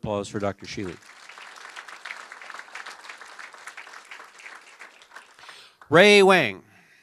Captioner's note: applause